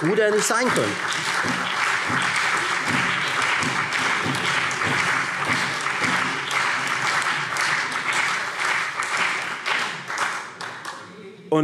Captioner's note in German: Lebhafter Beifall Freie Demokraten, CDU, BÜNDNIS 90/DIE GRÜNEN und SPD